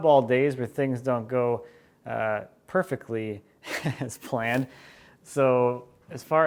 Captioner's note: laughs